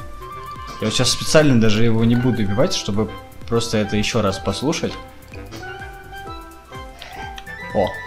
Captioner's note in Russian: апчхххи